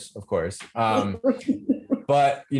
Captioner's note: laughs